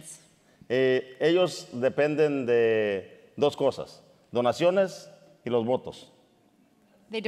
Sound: speaking in Spanish

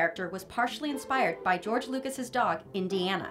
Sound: none

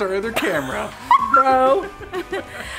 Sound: laughs

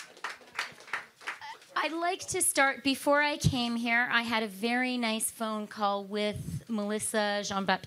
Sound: applause

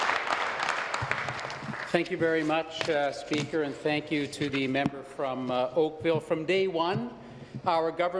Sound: applause

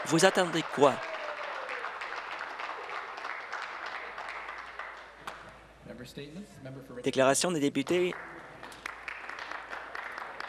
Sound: applause

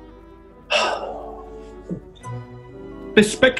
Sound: sighs

